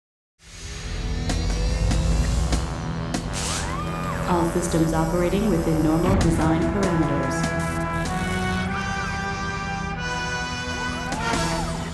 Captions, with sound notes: (dramatic music) (machines whirring) All systems operating within normal design parameters. (dramatic music)